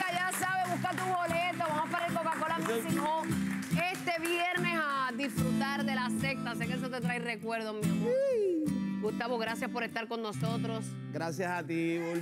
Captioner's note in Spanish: aplausos